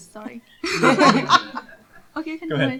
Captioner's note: laughter